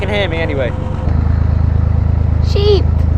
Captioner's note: narrowboat engine sounds